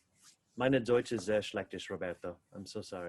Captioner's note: speaking in foreign language